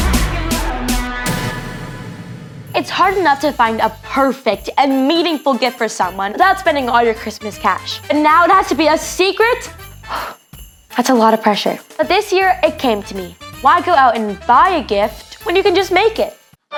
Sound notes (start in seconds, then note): 10.1 exhales